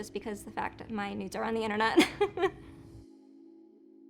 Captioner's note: laughing